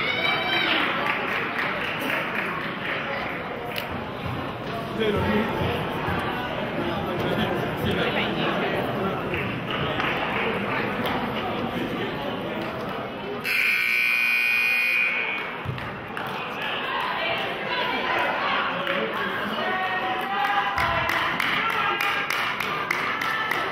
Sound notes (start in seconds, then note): 0.1 players hollering; 0.6 clapping; 13.4 buzzer honks; 16.2 players cheer; 20.7 clapping